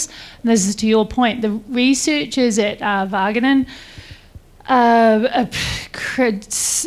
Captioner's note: stumbles over words